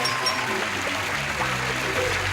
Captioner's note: applause